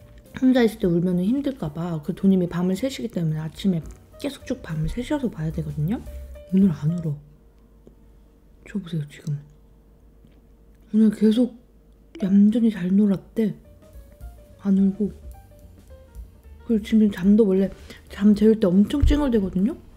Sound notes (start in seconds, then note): 8.6 silent